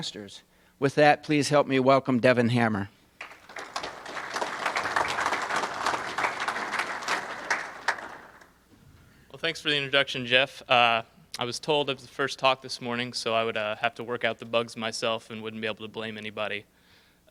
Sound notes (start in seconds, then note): 3.2 audience applauses